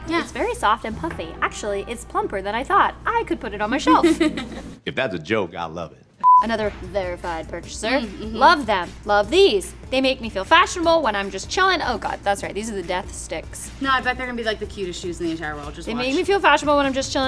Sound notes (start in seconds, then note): 3.8 laughs; 6.2 beep